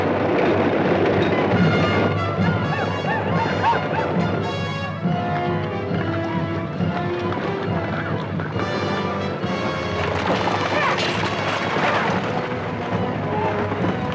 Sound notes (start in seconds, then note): 1.4 Apaches howl; 2.2 dramatic orchestral music